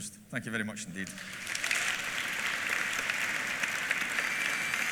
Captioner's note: applause